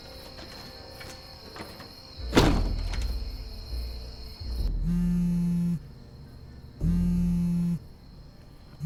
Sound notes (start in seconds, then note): 4.7 cellphone vibrating